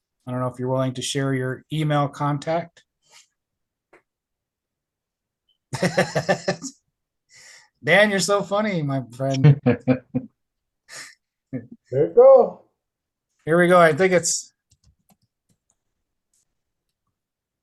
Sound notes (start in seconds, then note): 5.7 laughs